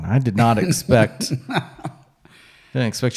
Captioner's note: laughs